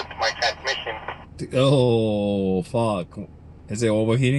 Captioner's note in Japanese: 無線の通信